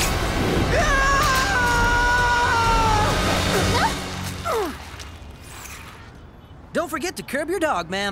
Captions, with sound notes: [SHOUTING] Don't forget to curb your dog, ma'am.